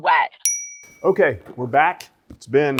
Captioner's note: bell dings